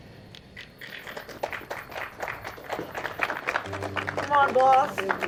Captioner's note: all clapping